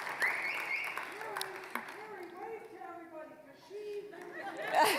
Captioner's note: applause; whistling; audience laughing